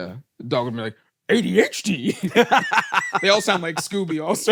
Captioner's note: laughs